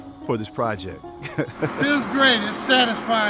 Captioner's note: giggles